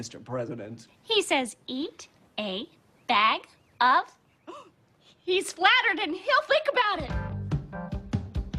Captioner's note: gasp